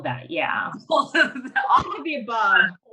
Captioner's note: laughs